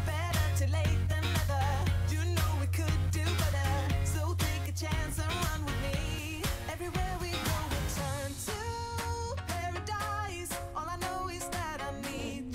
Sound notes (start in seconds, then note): 5.9 train is moving fast